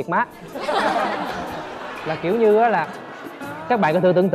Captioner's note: laughing